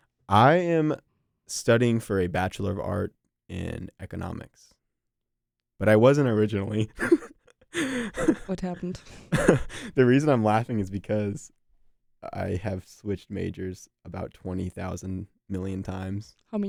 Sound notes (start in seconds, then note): 7.7 laughs